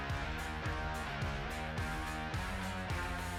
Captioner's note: clapping